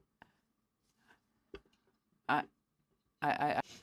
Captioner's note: speaking French